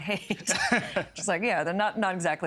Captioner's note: laughing